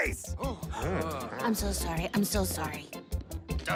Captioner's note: audible reactions